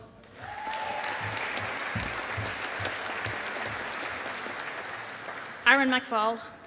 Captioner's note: audience applauding